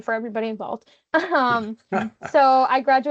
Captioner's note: laughing